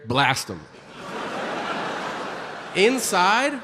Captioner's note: audience laughing